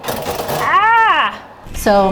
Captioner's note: yelling